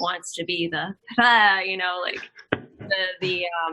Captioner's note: laughing